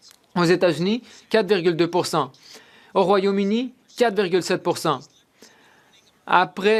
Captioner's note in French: voix de l'interprète